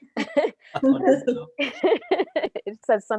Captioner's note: laughs